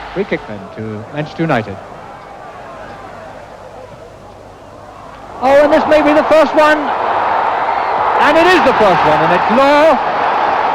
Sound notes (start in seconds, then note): 9.0 crowd roaring